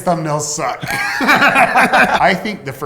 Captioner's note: laughter